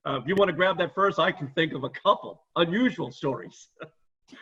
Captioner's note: laughs